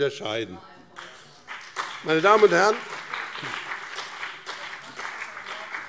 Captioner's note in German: Beifall BÜNDNIS 90/DIE GRÜNEN und vereinzelt CDU